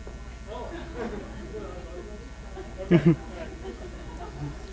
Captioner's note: audience laughs